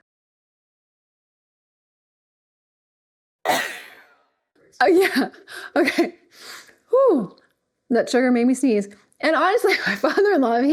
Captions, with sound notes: (sneezes) Oh yeah, okay. Whoo, that sugar made me sneeze. And honestly, my father-in-law,